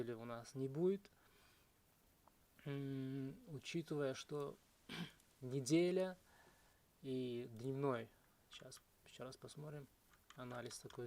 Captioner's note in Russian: откашливается